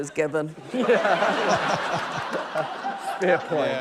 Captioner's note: laughter